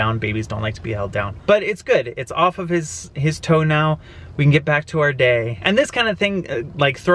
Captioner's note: none